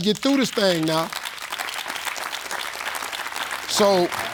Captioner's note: audience clapping